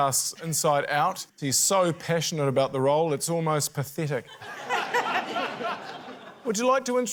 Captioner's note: laughter